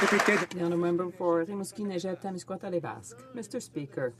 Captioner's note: some Applause